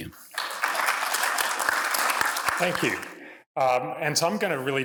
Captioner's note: applause